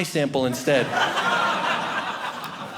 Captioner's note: audience laughing